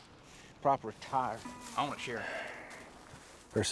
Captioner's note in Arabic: تنهدات